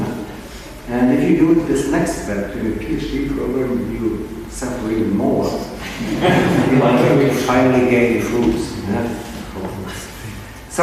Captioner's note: people laughing